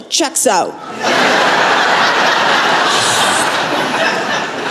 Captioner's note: laughter